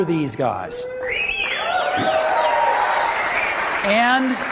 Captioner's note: audience cheering